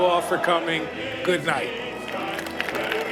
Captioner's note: applause